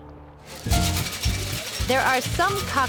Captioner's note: ice rattling